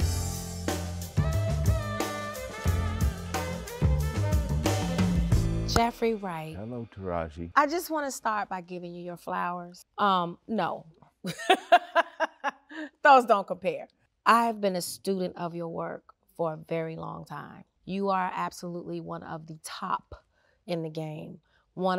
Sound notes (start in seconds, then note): 0.0 upbeat jazz music; 11.2 Taraji chuckles